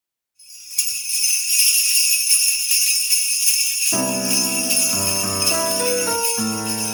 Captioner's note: sleigh bells jingle